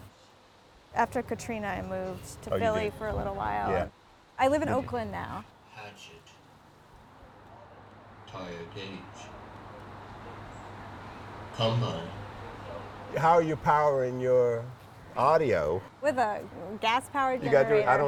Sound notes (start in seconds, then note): 6.5 calm voice playing through speakers